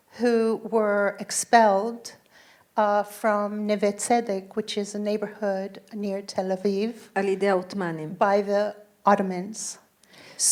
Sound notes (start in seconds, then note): 7.2 speaking in foreign language